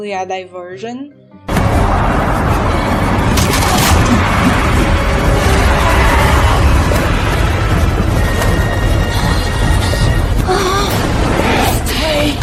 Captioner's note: wind